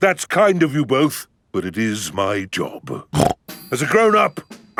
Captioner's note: snorts